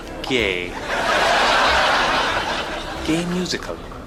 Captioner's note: audience Laughter